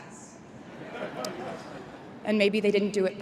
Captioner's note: crowd members chuckling